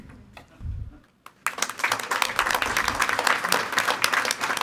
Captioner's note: all applauding